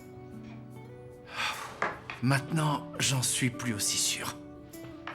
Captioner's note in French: soupirs